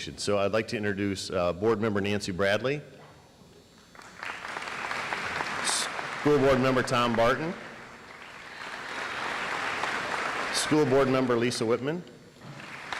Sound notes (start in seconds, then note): 3.9 audience applauds